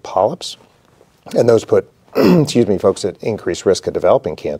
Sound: clears throat

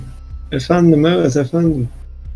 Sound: in turkish

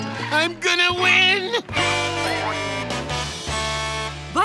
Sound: Blaze honking

